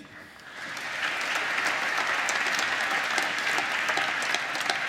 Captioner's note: applause